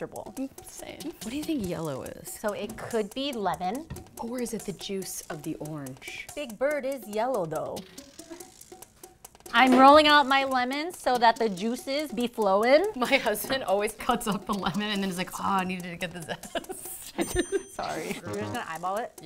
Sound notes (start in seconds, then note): 16.1 laughs